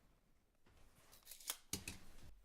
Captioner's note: snap sound of tape-measure closing